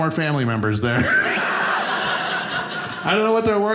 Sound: audience laughing

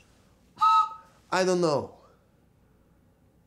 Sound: blows whistle

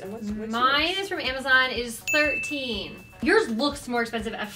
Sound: ding

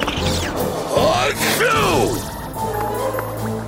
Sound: sneezing

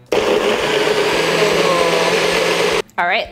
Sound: blender blends

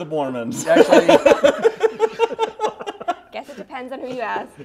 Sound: laughter

